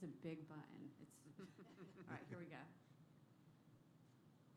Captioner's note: laughter